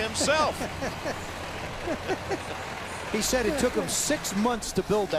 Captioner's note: laughter